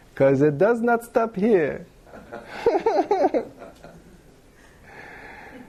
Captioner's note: laughter